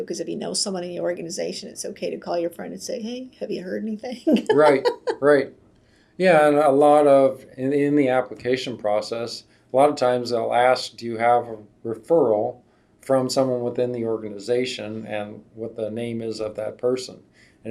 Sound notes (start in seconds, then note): 4.2 laughs